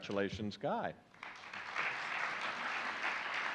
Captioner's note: applause